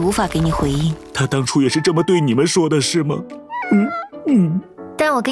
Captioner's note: sob